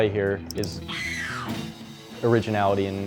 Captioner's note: scream